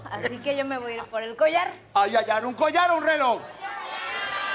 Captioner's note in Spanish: Gritos